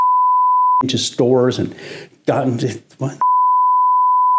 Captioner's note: beep